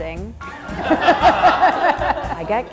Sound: laughs

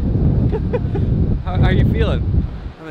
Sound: laughing

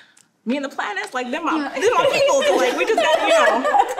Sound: people laughing

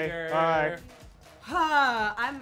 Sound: groans

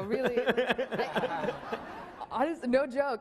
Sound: laughing

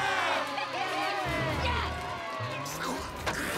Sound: cheering

